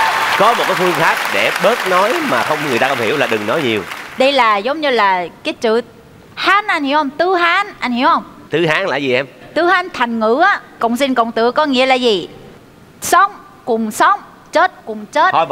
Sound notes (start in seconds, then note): 9.2 Truong Giang copied Hari's incorrect tone